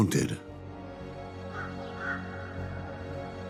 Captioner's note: crow croaking